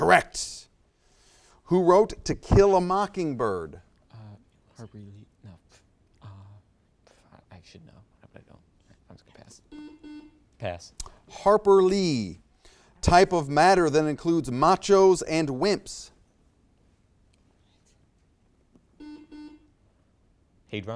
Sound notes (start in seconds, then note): 9.7 buzzer beeps; 19.0 buzzer beeps